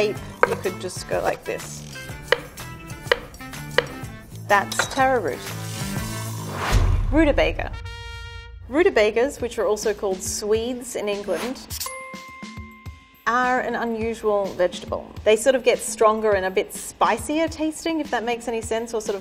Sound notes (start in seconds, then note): 3.0 knife tapping against wooden board; 11.8 ping